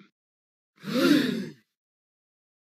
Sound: gasp

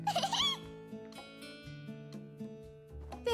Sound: giggling

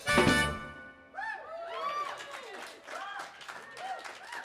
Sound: aplausos; applause

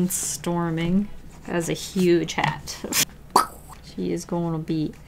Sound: pow

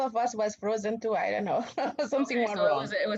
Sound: laughter

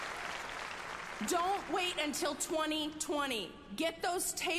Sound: applause

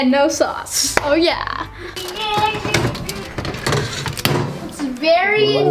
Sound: metal clanking

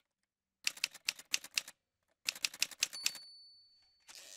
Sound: typewriter sounds

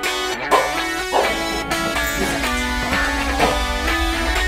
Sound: dog barking; upbeat music

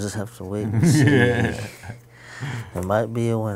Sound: laughing

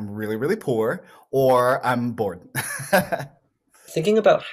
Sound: laughs

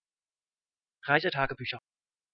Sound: fast Pronunciation

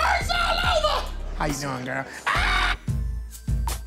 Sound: screams

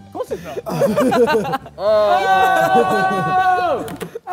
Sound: Ethan cheers

